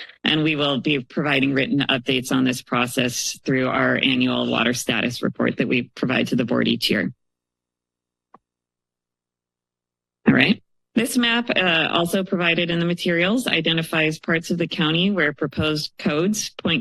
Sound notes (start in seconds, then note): 7.2 pause